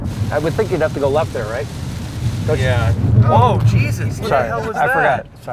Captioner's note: tires screech